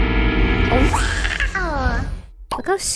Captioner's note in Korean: 무서운 상어 울음소리